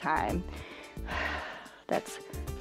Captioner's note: exhales